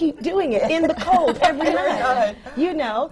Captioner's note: laughter from the panel